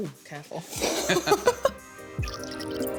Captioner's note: laughter